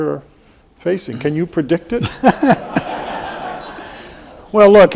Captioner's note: everyone laughs